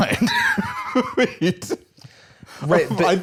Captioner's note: laughs